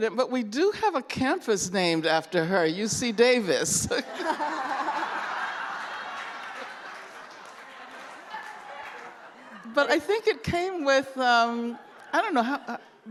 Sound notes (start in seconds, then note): 3.8 laughter